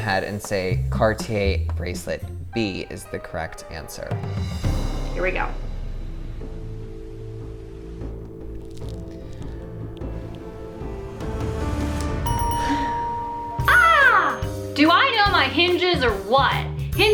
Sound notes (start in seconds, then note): 6.0 suspenseful music; 12.1 bells ringing